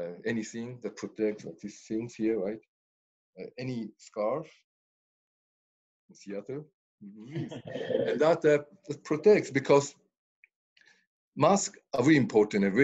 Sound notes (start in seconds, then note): 7.3 laughs